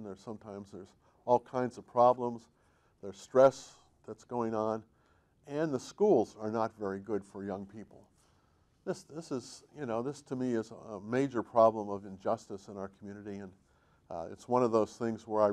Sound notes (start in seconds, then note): none